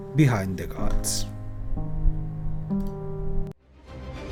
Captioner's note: wind blowing